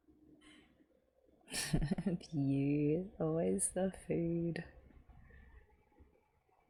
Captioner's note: laughs